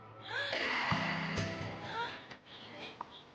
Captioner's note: gasping; acoustic guitar strumming